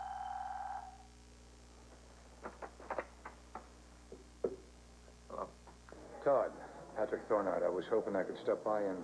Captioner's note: telephone rings